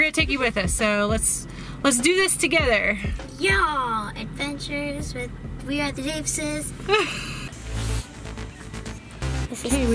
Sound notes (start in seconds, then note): 7.0 laughing; 7.5 upbeat techno music